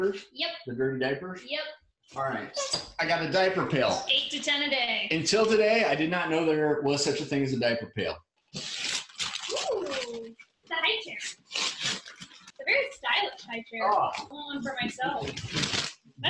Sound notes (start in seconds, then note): 8.5 paper tearing